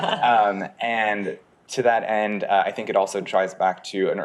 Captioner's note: people laughing